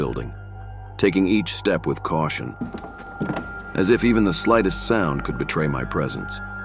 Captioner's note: light footsteps